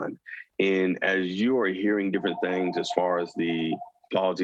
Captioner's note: phone rings